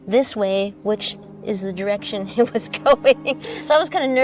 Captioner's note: laughs